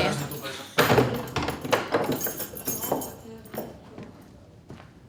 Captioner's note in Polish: brzęk kluczy